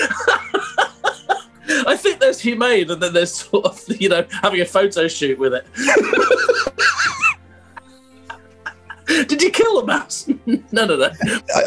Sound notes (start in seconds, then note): 0.0 laughing; 5.8 laughter